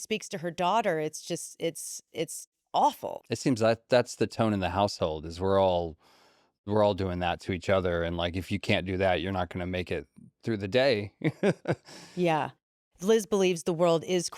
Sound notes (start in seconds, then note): 11.2 laughs